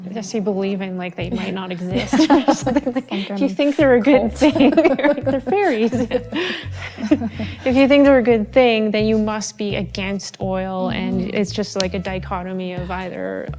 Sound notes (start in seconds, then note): 4.3 laughing